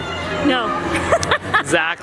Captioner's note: laughing